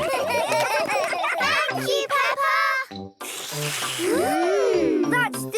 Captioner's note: all slurping